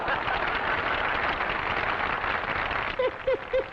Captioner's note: laughter and applause